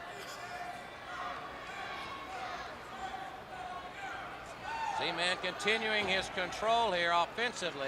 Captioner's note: crowd chatter